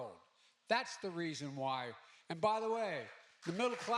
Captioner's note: applause